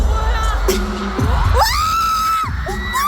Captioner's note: screams